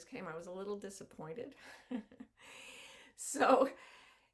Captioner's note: chuckles softly